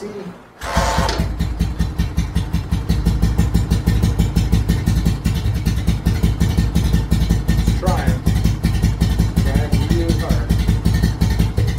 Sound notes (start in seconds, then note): 0.5 engine starts slowly putting; 2.7 engine speed picks up; 11.6 engine suddenly coughs and putts very slowly